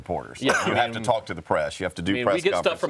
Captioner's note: coughs